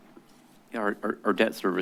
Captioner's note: stuttering